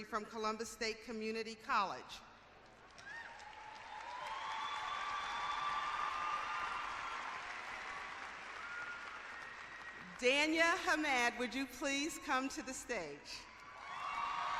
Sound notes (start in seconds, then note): 2.6 clapping and cheering; 13.5 cheering